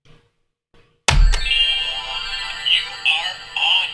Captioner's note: chiming